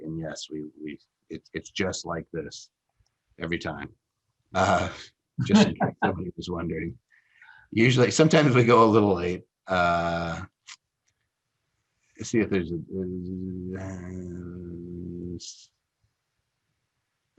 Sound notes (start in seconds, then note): 5.4 laughs